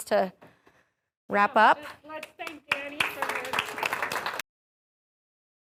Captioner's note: clapping